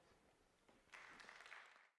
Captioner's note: applause